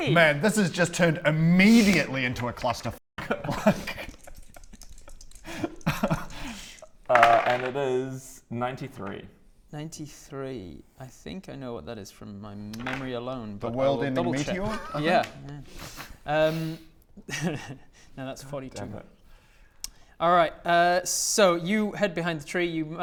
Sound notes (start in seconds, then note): 5.4 unsurprised laughter